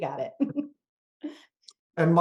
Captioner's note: laughs